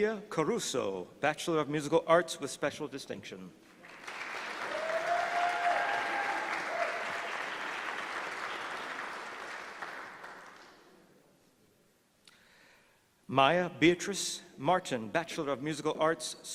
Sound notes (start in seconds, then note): 3.8 applause